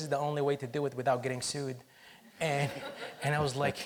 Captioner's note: audience laughs